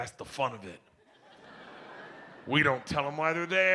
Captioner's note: audience laughs